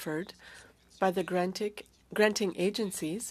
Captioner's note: speaking French